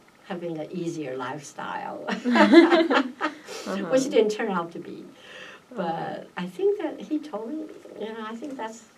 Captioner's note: laughs